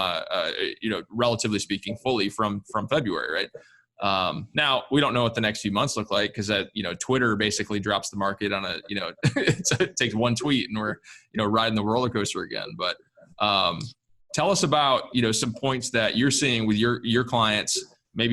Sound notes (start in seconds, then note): 8.8 laughs